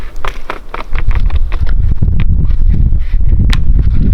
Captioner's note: bark cracking